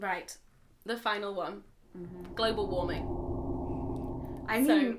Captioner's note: roaring noise